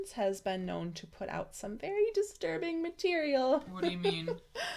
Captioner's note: nervous laugh